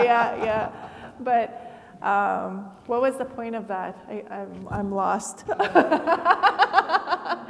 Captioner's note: laughs